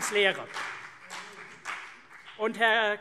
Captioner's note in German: Vereinzelter Beifall CDU und BÜNDNIS 90/DIE GRÜNEN